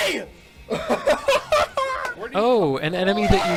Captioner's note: laughs